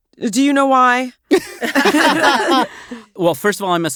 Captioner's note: all laugh